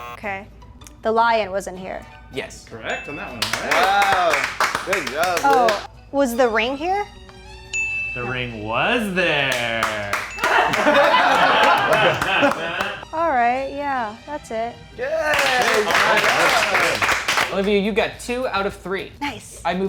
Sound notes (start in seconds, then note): 3.4 movers clapping; 7.9 correct buzzer; 9.4 clapping; 10.4 everyone laughing; 15.2 movers clapping